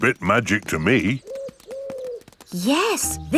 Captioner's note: owl hooting